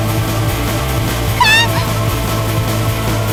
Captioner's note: screams